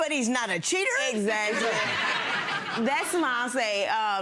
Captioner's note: crowd laughing